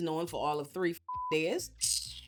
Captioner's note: beep